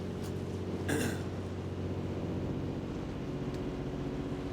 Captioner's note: clears throat